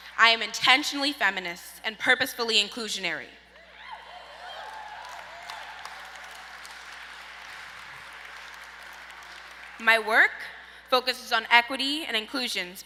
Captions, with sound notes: I am intentionally feminist and purposefully inclusionary. (audience cheers) My work focuses on equity and inclusion,